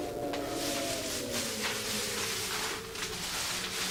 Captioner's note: black bag crinkling